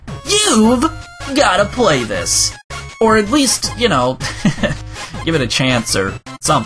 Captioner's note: giggles